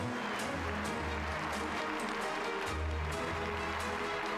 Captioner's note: crowd applauds